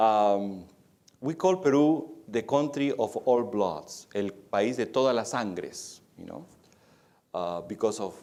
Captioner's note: speaking spanish